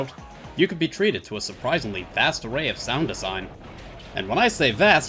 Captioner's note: thudding pile driver